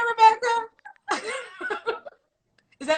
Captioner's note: laughs